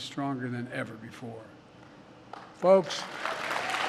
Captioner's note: applause